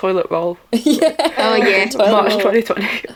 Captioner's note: laughter